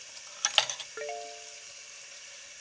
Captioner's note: phone chimes